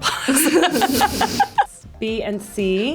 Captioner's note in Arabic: تضحك